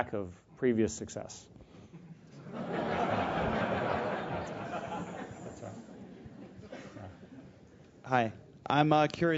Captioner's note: laugh